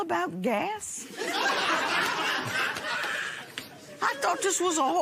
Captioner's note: laughter